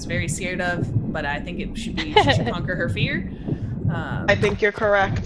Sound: laugh

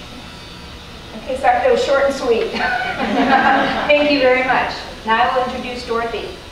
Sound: audience laughter

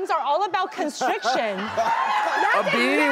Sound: audience laughing

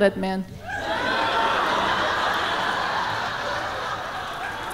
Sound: audience laughing

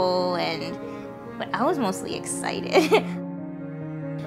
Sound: laughs

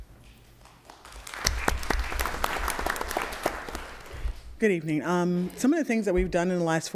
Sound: applause

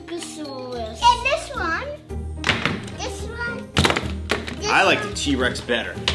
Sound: toys crash

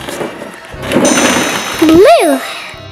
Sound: balls tumbling; chiming

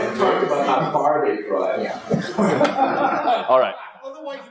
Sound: laugh

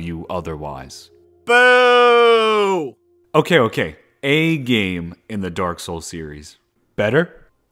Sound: crowd booing noises

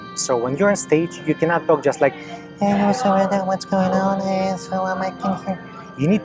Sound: whispering

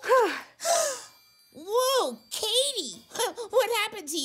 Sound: gasps

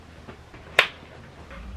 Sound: clap

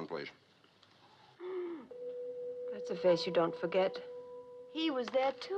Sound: gasps

